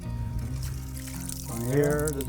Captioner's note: water splashing